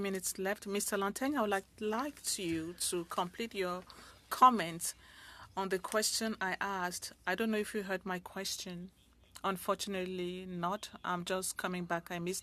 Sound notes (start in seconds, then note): 1.0 speaking French